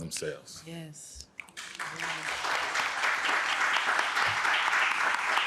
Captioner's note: audience applauds